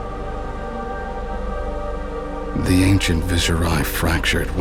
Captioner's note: none